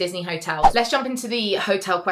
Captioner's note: screen fwipping